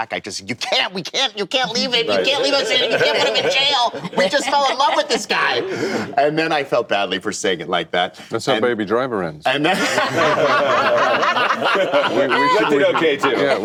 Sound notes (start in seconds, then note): 9.6 laughter